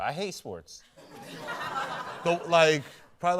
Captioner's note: laughter